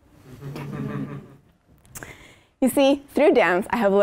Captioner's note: laugh